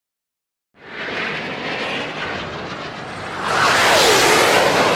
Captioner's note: whooshing sound